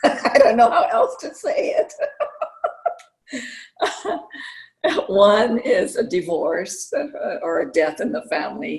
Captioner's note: laughter